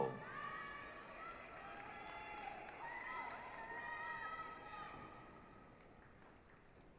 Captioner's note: applause, cheering